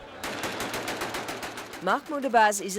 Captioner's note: gunfire